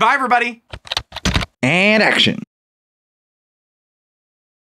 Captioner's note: typing